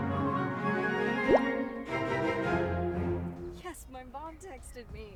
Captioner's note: text bubble pops